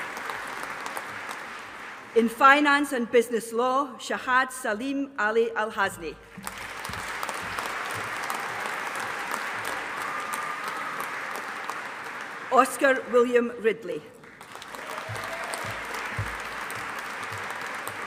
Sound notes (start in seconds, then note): 6.3 audience applauding; 14.2 audience applauding